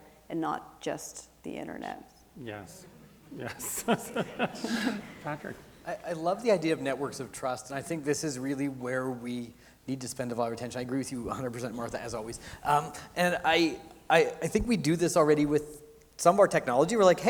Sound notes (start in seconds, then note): 2.7 laughs